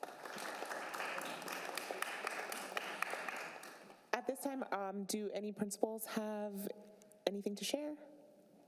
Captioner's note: applause